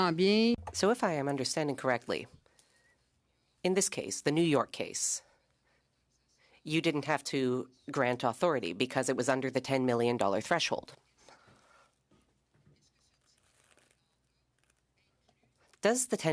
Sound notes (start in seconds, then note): 6.1 speaking French